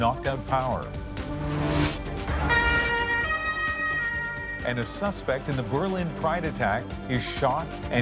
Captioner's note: sirens